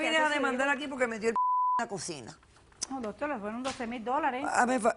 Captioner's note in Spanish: Bip